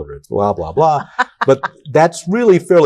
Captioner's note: laughs